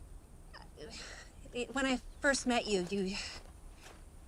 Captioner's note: sighs